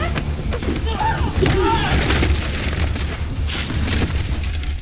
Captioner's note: clattering